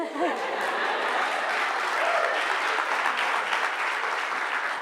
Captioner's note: audience laughter